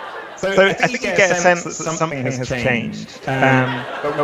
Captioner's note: laughter